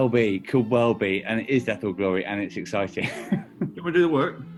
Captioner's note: laughing